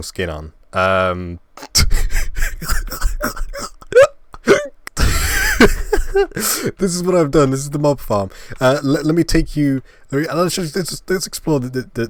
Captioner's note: laugh